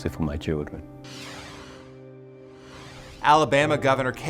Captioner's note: screen whooshing